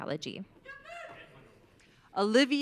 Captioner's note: audience cheering